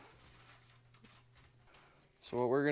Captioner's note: line scraping softly